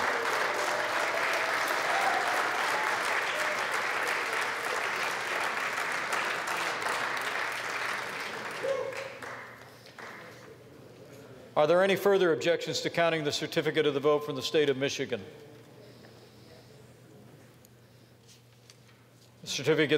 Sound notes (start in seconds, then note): 5.6 applause